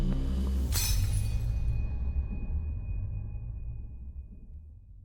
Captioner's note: glass shattering